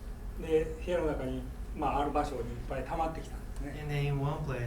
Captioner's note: speaking in foreign language